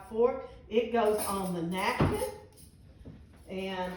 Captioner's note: forks clanging